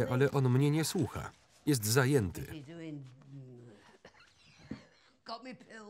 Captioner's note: coughs